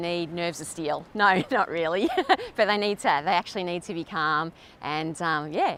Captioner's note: laughs